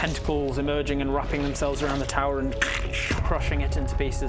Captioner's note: crunch